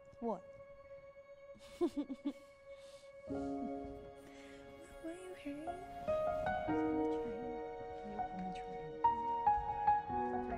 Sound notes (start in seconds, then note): 1.6 laughs